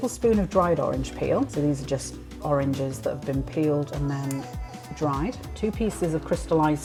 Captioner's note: snap